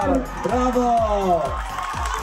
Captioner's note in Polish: Aplauz